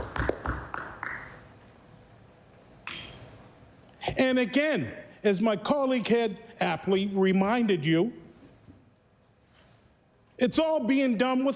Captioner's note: applause